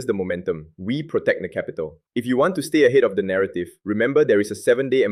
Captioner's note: persuasive